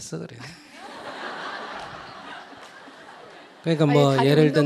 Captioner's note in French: rire du public et de l'interlocuteur